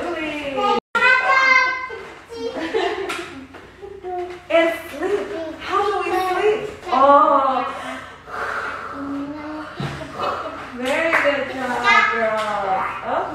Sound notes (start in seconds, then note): 0.2 laughing; 0.9 children shouting; 7.1 snoring